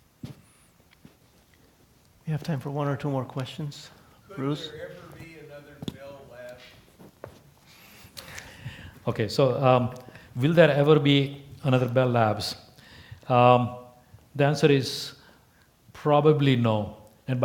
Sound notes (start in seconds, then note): none